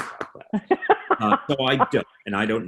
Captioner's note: laughing